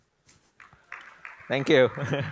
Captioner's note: applause